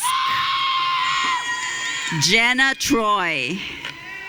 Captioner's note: audience cheering; audience cheering